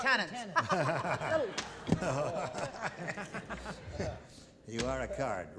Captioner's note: laughter